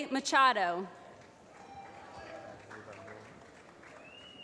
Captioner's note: applause